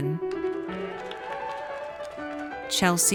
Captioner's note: audience cheers